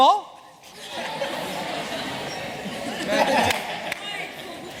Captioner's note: chatter